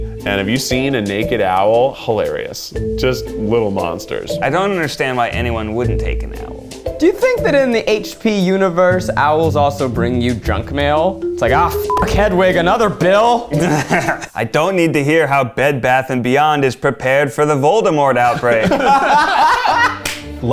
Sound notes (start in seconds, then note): 11.6 beep; 18.3 all laugh